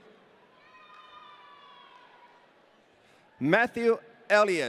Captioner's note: audience cheering